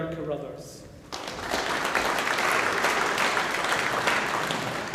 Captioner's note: audience applauding